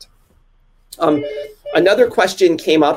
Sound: phone rings

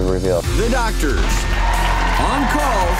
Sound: audience cheering

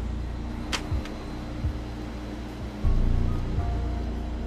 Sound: gun clicking

